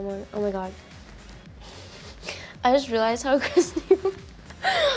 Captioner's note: laughs